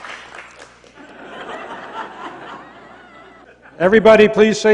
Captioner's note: laughter